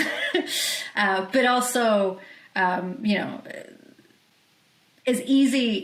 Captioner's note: chuckles